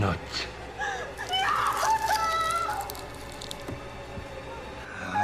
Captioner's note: knife slices